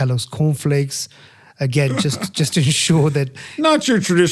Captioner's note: laugh